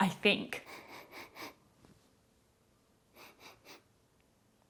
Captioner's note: sniffing